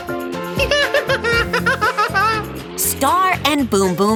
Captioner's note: laughing